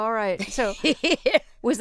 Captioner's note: laughter